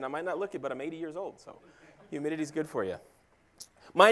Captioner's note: laugh